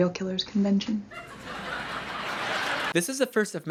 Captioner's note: canned laugh track